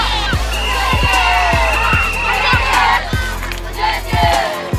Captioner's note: cheering